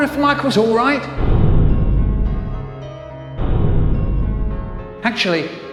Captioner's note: slow, muffled banging noises in the distance